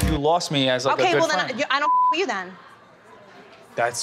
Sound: beep

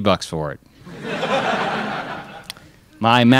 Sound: crowd laughs

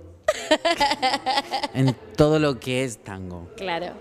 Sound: laughs

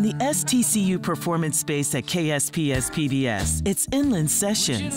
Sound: voiceover

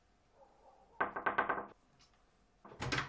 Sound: door knocking

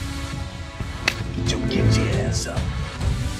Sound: hand slaps

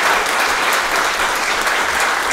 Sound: applause

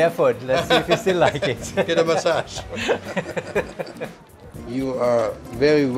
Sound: both laugh

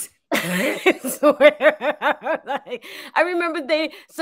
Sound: both laugh

